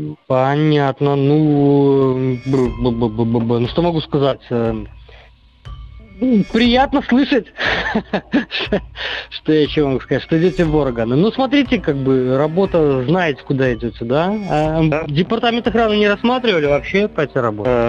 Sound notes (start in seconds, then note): 7.5 laughs